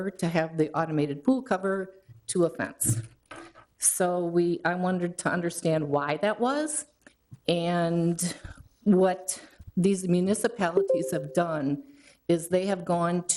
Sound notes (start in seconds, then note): 10.8 electronic chime